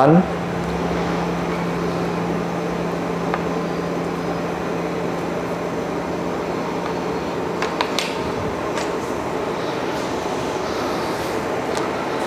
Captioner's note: moving tray sound